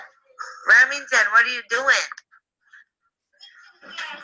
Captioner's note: disembodied Female Voice